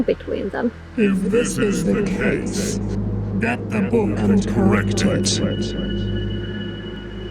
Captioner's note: godly voice